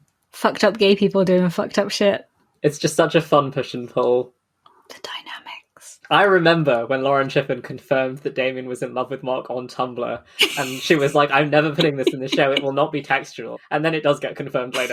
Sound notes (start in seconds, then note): 5.1 whispering; 10.4 laughs